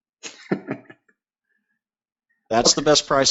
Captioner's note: laughing